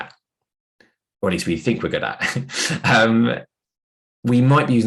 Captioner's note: chuckles